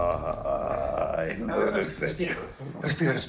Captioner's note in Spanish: Quejidos